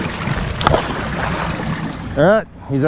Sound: splashing

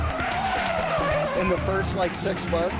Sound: tires screeching

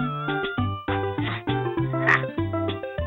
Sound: grunting

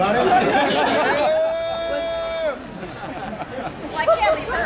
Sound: audience laughing

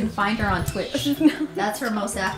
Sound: laughs

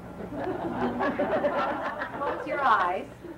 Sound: laughing

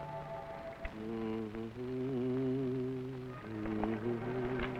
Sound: hums

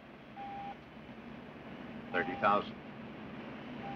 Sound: beeping Continues

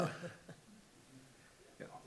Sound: attendee chuckles

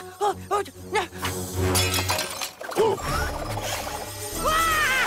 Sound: vase breaking

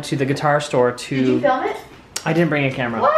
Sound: voiceover

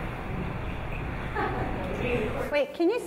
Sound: laughing

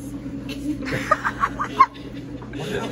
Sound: laugh

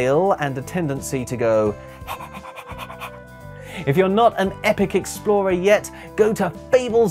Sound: panting noises

